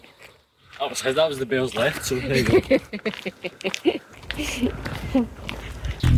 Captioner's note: laughter